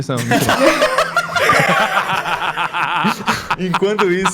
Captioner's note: laughing intensifies